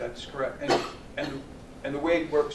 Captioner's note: cough